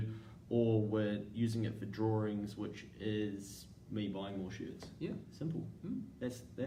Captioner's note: none